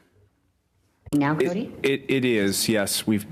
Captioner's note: speaking ukrainian